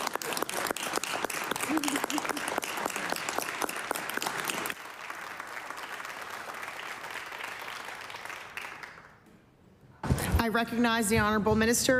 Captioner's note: applause